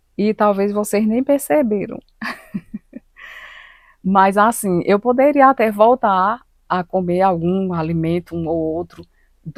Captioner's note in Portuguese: risadas